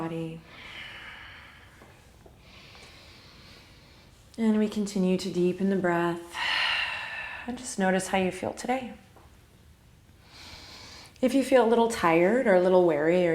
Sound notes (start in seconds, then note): 0.4 exhale; 2.5 deep inhale; 6.3 deep exhale; 10.4 inhale